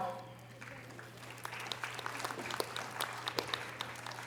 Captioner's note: audience applause